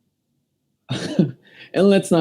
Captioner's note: tired laugh